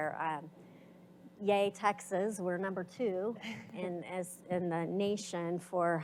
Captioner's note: chuckles